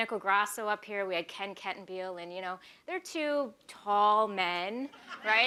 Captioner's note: laughter